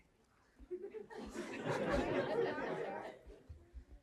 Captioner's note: crowd laughs